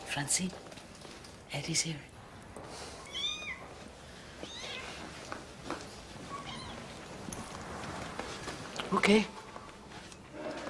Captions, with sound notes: Francine? Eddie's here. (KITTEN MEOWING) Okay.